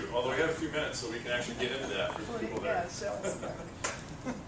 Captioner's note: laugh